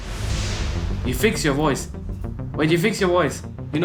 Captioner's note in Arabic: على سماعة الرأس